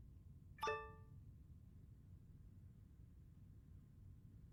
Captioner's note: laptop chimes